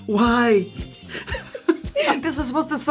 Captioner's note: laugh